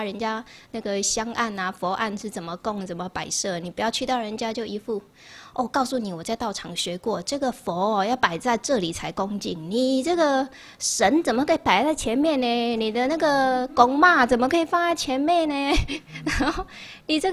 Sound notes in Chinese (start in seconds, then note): 13.8 台語